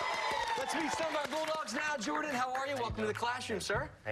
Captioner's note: cheers and applause